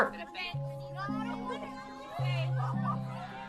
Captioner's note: children chattering